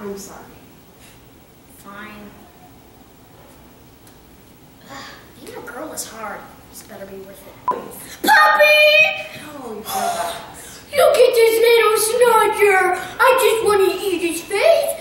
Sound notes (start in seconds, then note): 11.1 cutesy voice